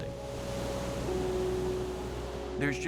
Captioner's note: waves crashing